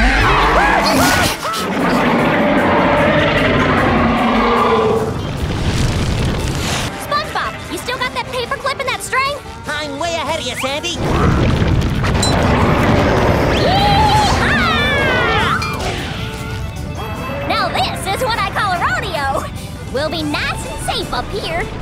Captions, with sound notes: [screaming] [growling] SpongeBob, you still got that paper clip and that string? I'm way ahead of ya, Sandy. [growling] Yee-haw! Now this is what I call a rodeo! We'll be nice and safe up here!